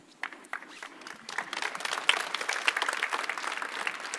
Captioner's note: applause